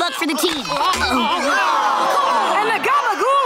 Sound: groaning; yelling

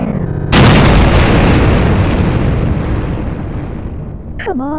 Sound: glitches; explosions

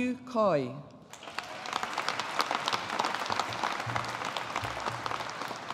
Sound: audience applauding

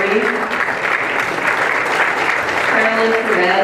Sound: applause

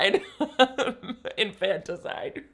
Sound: laughs

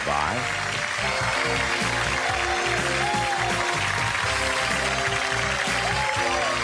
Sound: audience cheering and applauding

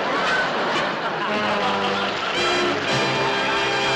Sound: laughter

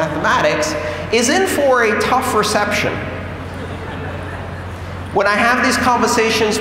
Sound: laughter

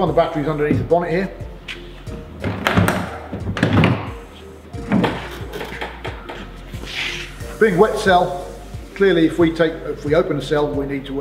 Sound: opens bonnet

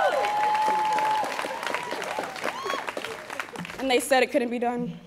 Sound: students cheering

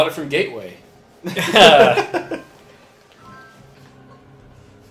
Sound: laughs

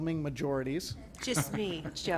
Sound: laughter

